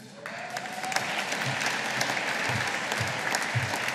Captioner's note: audience applauding